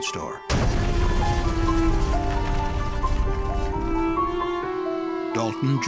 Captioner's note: sound of explosion